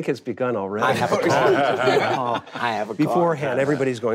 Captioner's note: group laughing